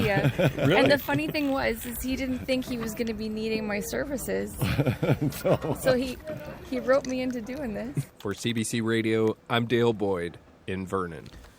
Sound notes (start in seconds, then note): 4.5 laughs